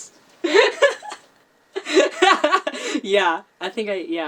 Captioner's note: laughs